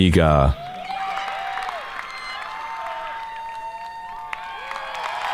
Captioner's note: audience cheering